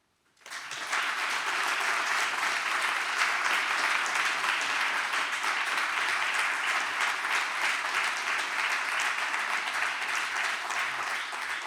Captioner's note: applause